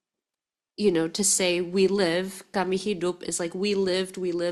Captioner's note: speaking in foreign language